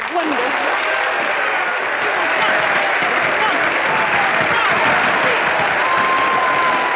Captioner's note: applauding; cheering